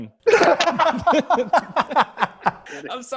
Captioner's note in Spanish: Risas